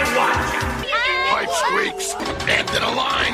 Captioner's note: panic sounds